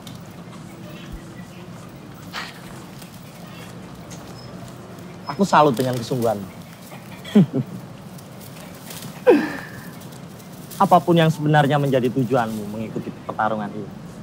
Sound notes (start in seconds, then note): 7.1 CAK JON chuckles